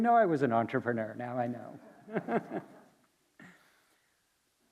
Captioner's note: chuckles